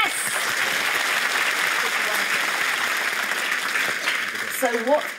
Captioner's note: applause